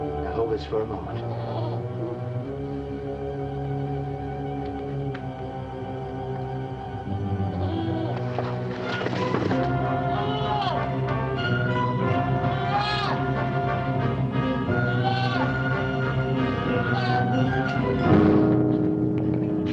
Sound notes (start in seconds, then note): 2.3 dramatic music; 10.0 goat bleating